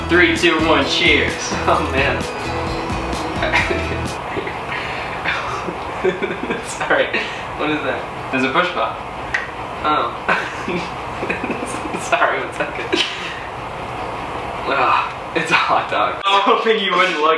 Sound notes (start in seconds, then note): 3.1 laughing; 10.0 laughing; 14.2 sniffing